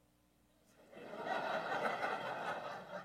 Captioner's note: laugher